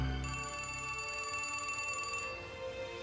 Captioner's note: phone ringing